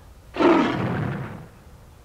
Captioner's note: roars goodbye